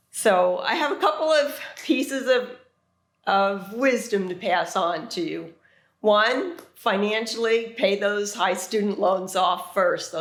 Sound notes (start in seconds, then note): none